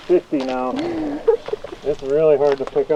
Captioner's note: laughing